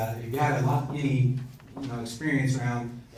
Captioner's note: murmurs